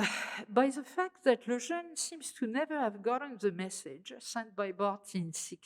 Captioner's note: french